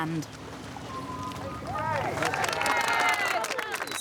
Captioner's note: applause